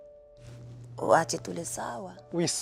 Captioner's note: speaks in foreign language